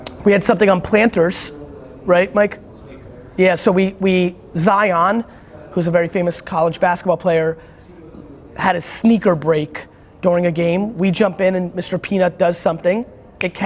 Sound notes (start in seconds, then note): 3.1 murmurs